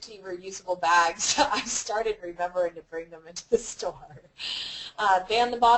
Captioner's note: laugh